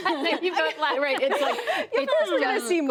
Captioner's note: laughter